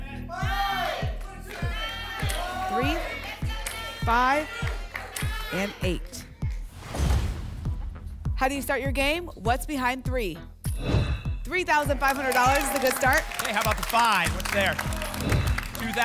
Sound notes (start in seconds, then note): 0.1 audience shouting numbers; 6.7 whoosh; 6.9 thump; 10.7 whoosh; 15.2 whoosh